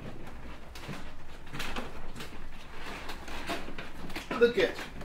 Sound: footsteps sloshing on floor

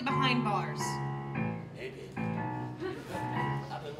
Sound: spoken, low-voice

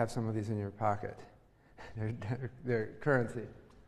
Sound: laugh

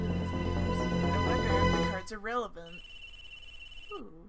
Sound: sarcasm

